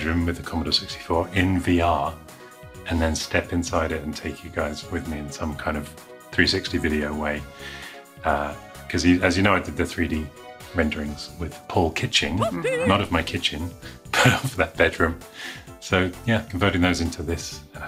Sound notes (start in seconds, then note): 12.2 man cheers; 12.3 chuckles